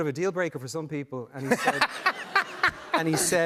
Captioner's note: laughter